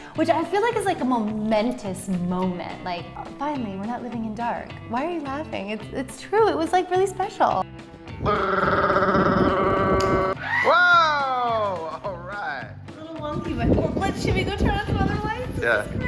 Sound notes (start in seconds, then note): 8.2 making drum roll sound